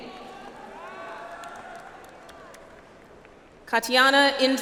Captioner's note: audience applauds